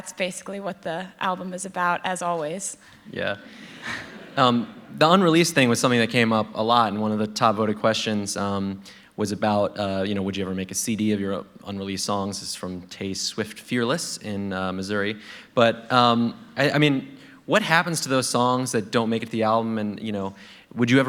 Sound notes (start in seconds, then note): 3.4 laughter